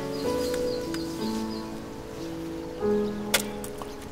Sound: the sound of chopping wood

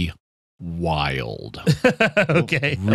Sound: laughter

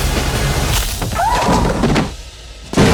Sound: music stops; yelps; thuds

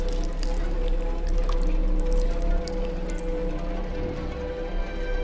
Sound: feeding sounds

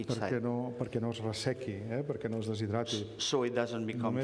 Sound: speaking catalan

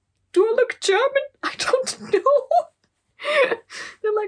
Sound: laugh

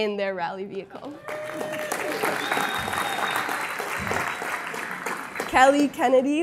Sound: applause

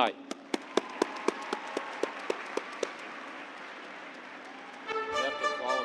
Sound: cheers and applause

